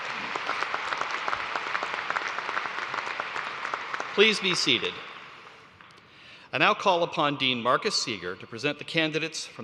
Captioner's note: cheers and applause